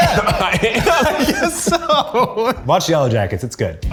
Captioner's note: laughs